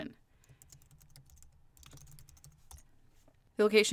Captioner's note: typing